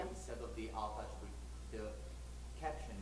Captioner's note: voiceover